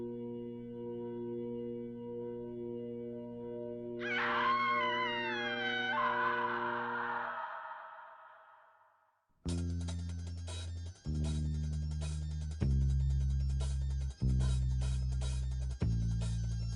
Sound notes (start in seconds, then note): 0.5 eerie music; 4.0 scream sound; 9.8 fast music